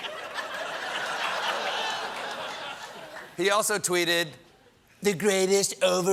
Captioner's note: applause; laughter